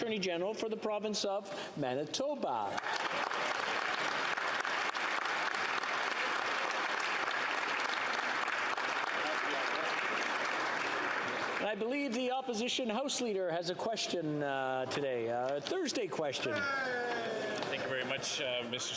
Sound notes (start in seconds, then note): 7.0 applause